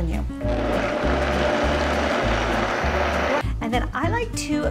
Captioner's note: blender whirring